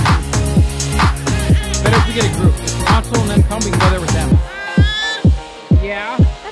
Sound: baby gurgling

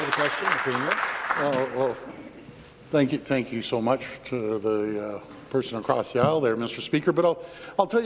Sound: applause

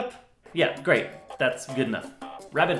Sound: sarcastically

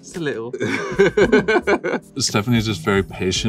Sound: both laugh

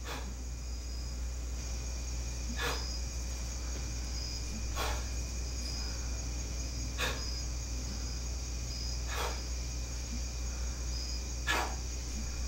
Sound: breathing

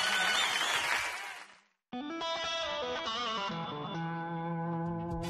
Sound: audience cheering; country roots music

